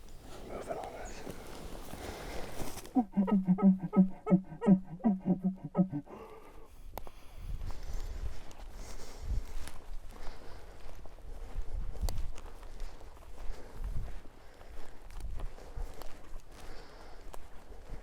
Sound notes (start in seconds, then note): 2.8 grunt calling